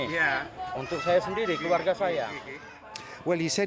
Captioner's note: men speaking Austronesian language; speaking Austronesian language